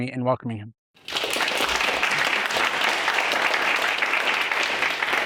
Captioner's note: audience applauding